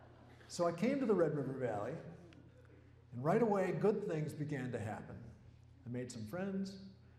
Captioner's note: laughter